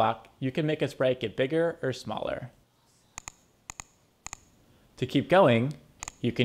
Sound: clicking

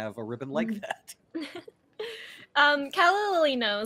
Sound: laughs

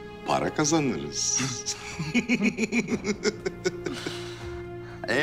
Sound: laughter

